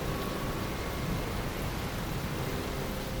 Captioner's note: rain and thunder